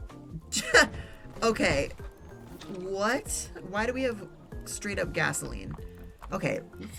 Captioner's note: laughs